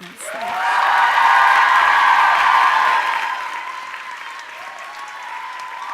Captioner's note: audience applauding and cheering